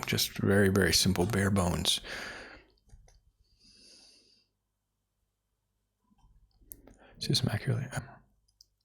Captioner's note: silence; silence